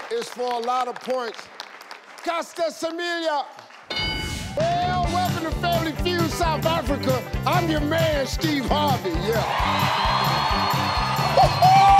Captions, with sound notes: is for a lot of points. Caster Semenya! Well, welcome to Family Fued, South Africa! I'm your man, Steve Harvey! (audience cheering) Yeah!